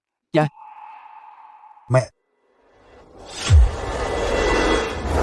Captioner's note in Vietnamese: la hét